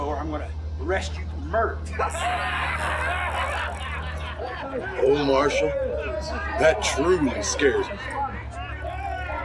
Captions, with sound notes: or I'm gonna arrest you for murder. (gang laughing) - Oh Marshall, that truly scares me.